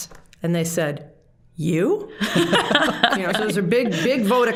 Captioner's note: all laughing